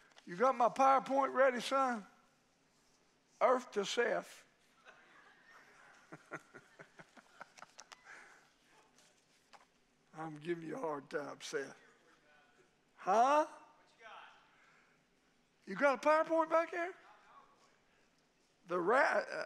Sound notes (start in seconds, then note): 4.7 congregation laughing; 5.9 laughing